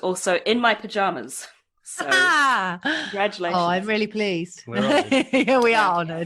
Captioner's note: laughs